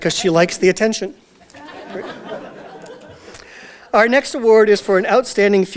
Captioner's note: audience Laughter